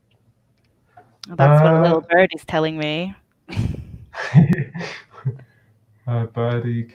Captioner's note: chuckles